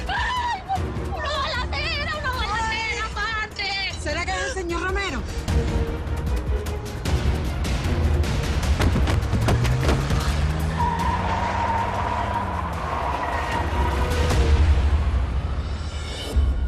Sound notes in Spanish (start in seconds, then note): 10.9 Chillido de neumáticos